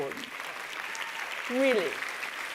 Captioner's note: applause